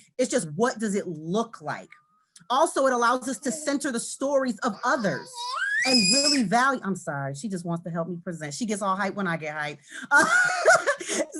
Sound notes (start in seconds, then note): 4.5 child squeals; 10.1 laughs